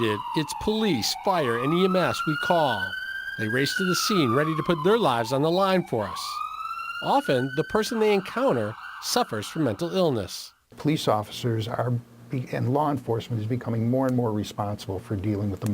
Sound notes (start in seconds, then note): 3.1 siren